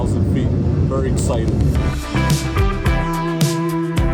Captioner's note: engine roaring; bright upbeat music